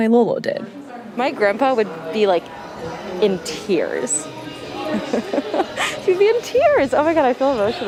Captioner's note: laughs